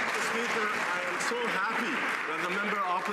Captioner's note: some Applause